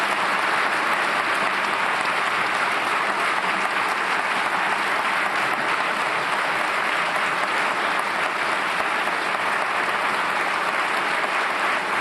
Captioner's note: applause